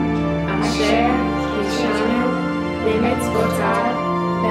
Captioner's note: in Hebrew